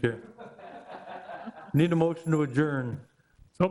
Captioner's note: all laughing